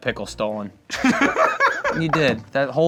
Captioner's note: laughing